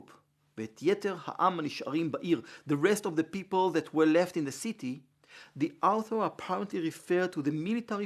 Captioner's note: Hebrew